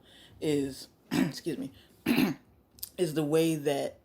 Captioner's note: clears throat